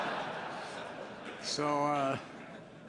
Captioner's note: laughter